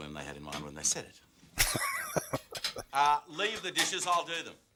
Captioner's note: laughing